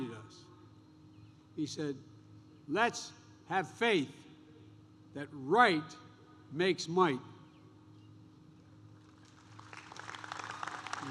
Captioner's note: applause